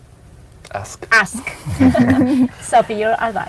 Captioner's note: chuckles